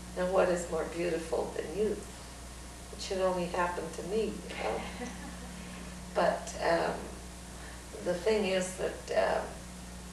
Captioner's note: laughter